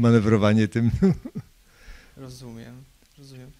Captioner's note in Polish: śmiech